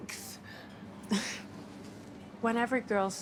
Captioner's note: Dana sighs